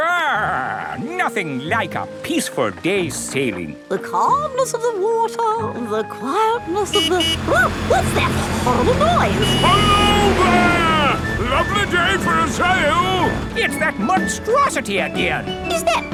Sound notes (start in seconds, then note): 6.6 honking